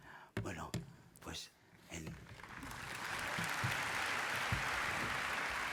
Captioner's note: applause